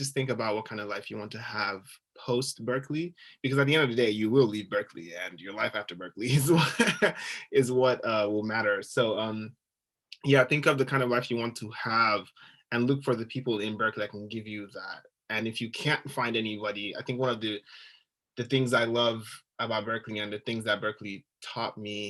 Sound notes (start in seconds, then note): 6.4 giggling